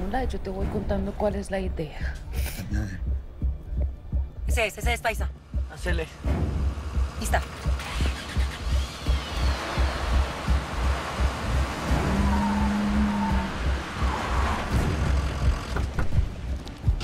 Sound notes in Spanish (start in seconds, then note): 10.2 Ruido del vehículo; 14.6 Frenazos